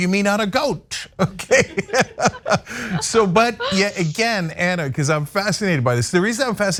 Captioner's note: laugh